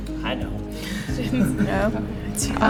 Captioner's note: laughing